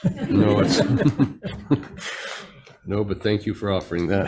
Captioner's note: everybody laughing